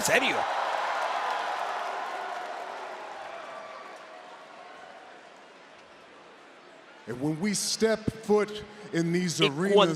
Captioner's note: applause